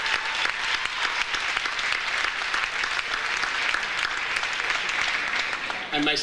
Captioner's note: audience applauds; audience cheers; audience applauds